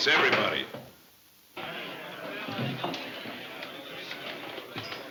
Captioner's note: crowd chattering